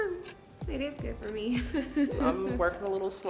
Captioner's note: laughs